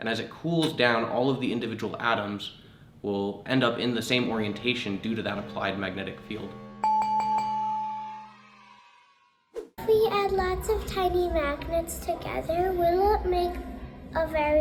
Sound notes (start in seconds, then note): 6.6 chime dinging